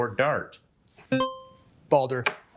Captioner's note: buzzer ringing